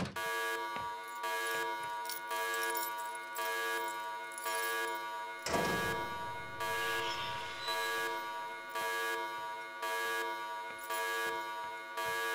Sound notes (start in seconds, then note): 0.6 alarm blares